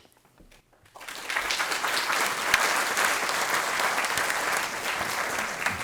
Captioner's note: audience applauding